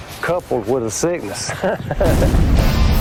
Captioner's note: laughs